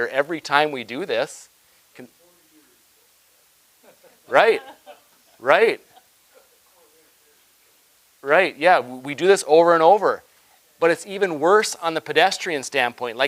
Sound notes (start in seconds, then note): 2.3 person speaking quietly; 3.8 people laughing; 6.4 person speaking quietly